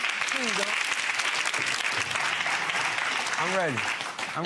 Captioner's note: crowd applauding